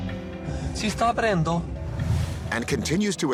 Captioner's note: man speaking foreign language